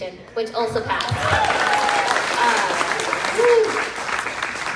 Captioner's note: crowd clapping